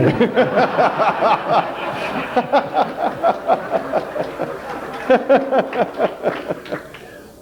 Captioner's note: all round laughter and sporadic applause